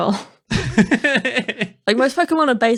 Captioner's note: laughing